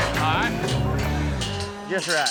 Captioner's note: gate clanks shut